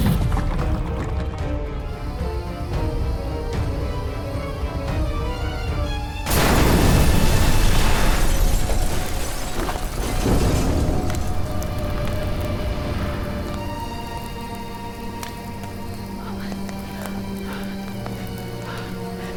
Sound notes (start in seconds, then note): 0.0 fire crackling; 2.9 dramatic music; 6.2 house exploding; 10.2 dramatic music; 13.8 fire raging; 16.6 dramatic music; 19.2 fire raging